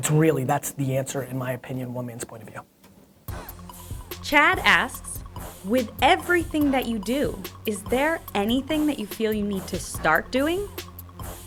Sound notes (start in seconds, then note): 4.0 voiceover